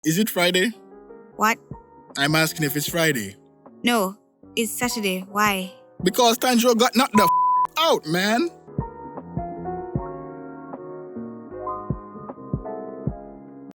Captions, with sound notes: Is it Friday what I'm asking if it's Friday no, it's Saturday why because Tanjiro got knocked the *Beep* out man *Intro Music*